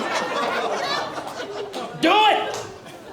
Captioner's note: laughter